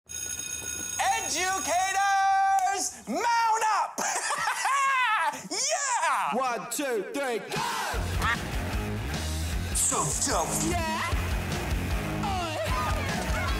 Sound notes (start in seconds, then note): 0.1 school bell rings; 3.9 laughs; 8.1 duck quacks